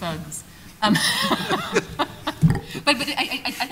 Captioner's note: chuckling